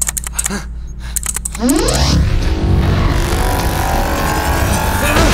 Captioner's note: teleporter turning on